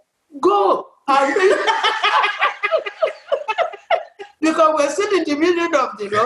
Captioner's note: laughs